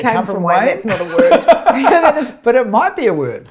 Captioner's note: laughs